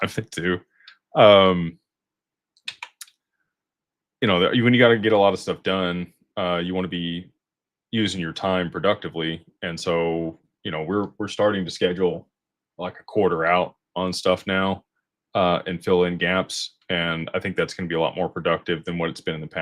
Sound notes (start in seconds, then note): none